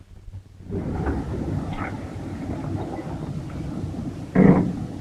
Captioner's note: engine rumbling